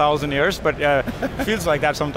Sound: laughs

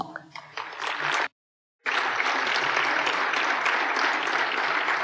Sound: applause

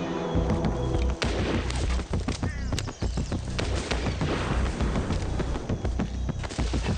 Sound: tense music; shots cracking

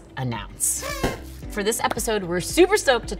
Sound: party horn blows

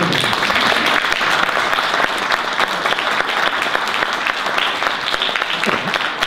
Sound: audience applause

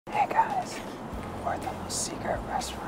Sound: whispering

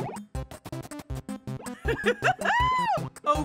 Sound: giggles

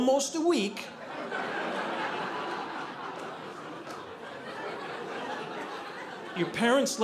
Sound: audience laughing

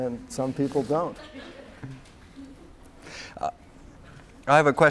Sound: laughter

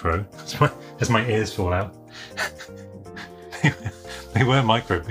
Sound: laughs

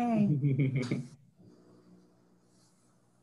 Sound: laughs

